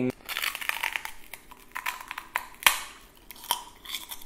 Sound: crunching

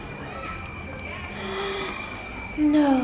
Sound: gasp

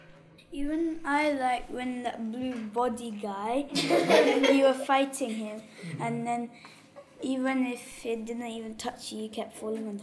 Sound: laughter

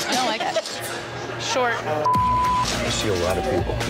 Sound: beep

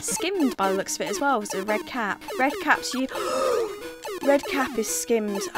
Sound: gasps

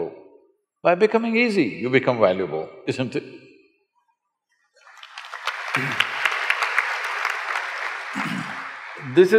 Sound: applause

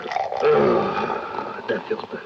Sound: man burps; groans

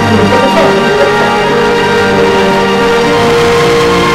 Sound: Dindo laughing

